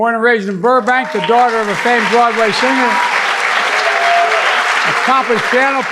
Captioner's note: audience clapping